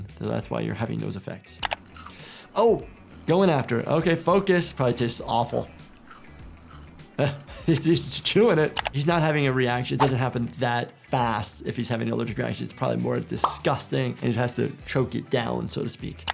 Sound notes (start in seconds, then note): 5.4 scorpion crunching